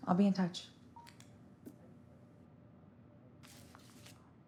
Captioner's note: phone bleeping